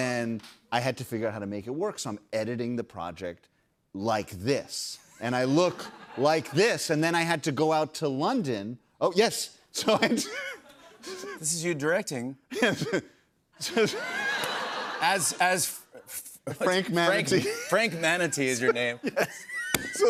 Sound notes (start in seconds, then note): 9.8 laughs; 13.6 laughter